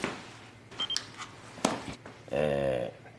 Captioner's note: camera beeps twice